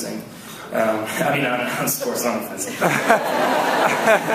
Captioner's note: laughs